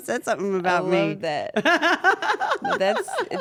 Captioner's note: laugh